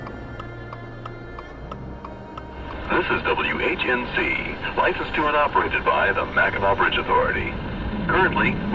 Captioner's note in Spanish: radio